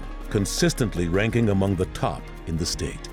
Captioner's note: none